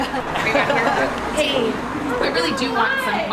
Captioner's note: laughing